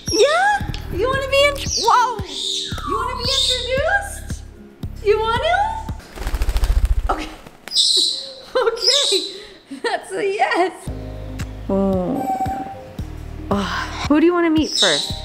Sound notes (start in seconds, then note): 7.7 Brando squawks